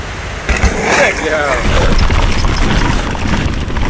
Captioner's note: dirt crunching